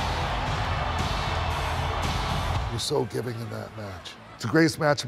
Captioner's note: applause